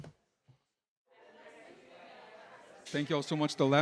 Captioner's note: audience chattering